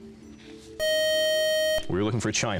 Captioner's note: time-out buzzer